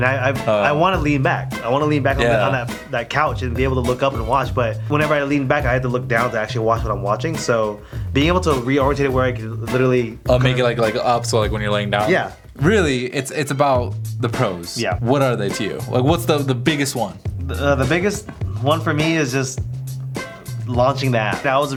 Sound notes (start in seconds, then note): 13.1 voiceover; 17.3 voiceover